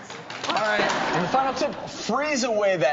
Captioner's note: audience clapping